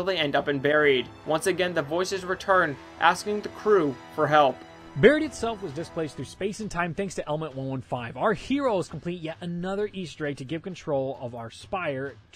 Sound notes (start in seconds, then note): none